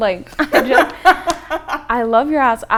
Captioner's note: laughs